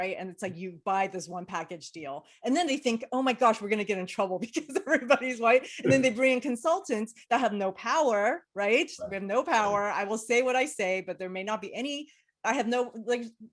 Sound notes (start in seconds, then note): 5.6 laughs